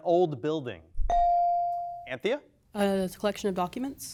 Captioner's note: bell dings